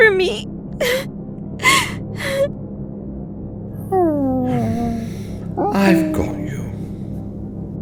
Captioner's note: ape noises